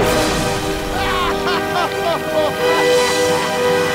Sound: evil laugh

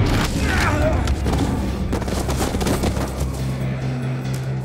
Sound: A-Train grunts

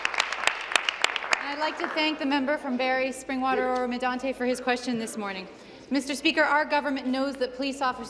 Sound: applause

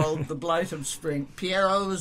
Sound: laughs

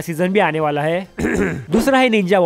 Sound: coughs

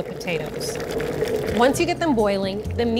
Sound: water bubbling

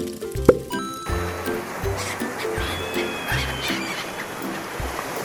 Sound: seagull: yelling

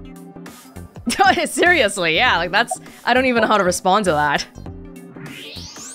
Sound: chuckles

